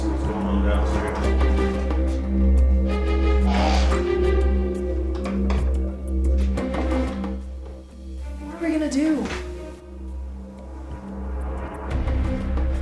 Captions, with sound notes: I'm gonna see what's goin' on downstairs. (door creaks) - What are we gonna do?